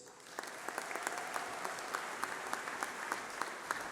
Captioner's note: applause